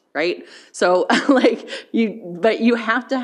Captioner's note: chuckles